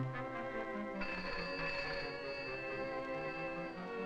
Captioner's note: phone ringing